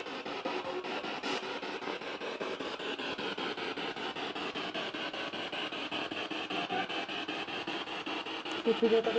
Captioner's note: noise of the spiritbox in the background